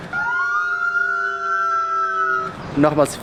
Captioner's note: sirens wail